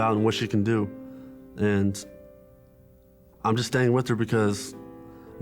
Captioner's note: none